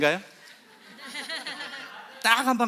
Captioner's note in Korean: 웃음